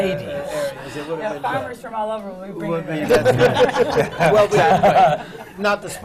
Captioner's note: laughter